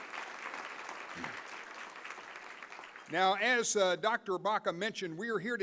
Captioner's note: applause